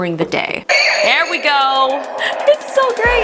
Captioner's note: saber whizzes